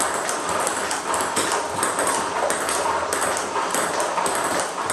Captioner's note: ball ping pong hitting continues